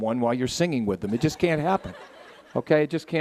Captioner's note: audience laughing